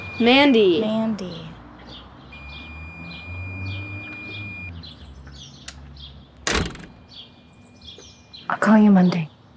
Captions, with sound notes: - Mandy! - Mandy. (beeping continues) (door shuts) I'll call you Monday.